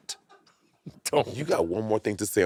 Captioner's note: crew giggling